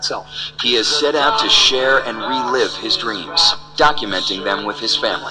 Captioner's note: voiceover